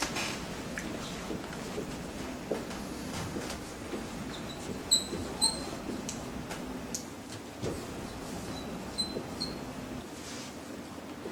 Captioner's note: marker squeaks